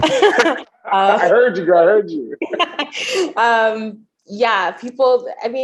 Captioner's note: chuckles